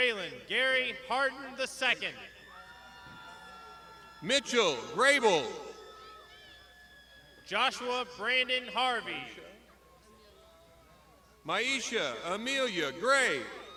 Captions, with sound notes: - Raelynn Gary hardened The Second. (crowd shouting) - Mitchell Rebel. - Joshua Brandon Harvey. - Myaisha Amelia Gray.